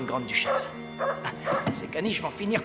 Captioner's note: dog barks